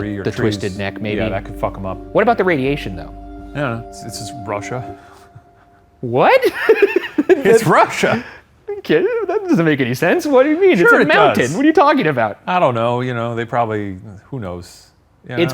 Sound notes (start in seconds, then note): 6.4 laughs